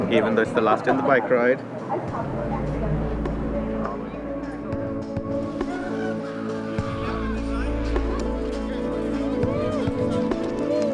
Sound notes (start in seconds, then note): 5.1 background chatter; 10.7 slow dramatic music